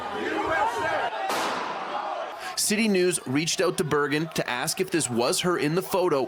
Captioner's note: chanting